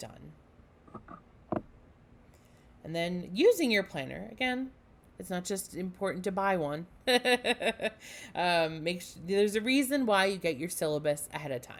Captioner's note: laughs